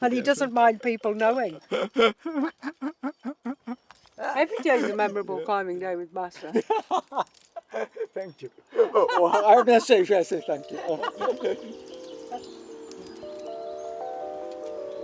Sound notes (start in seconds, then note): 10.6 laughs; 12.4 soft music